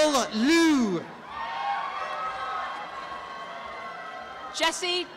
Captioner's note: applause and cheering